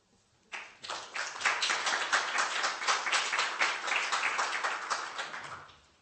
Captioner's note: applause